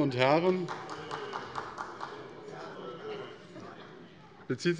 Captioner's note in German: Beifall bei Abgeordneten der SPD